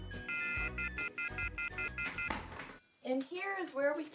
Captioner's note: dial tone beeps